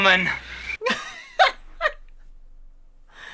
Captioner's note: laughs